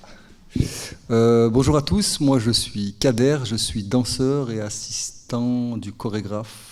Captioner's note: speaking in French